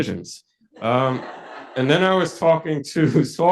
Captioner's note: audience laughs